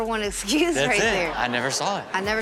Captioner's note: audience laughs